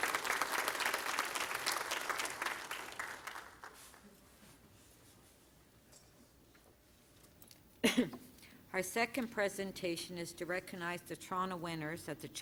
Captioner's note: applause